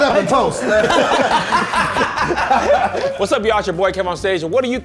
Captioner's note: all laughing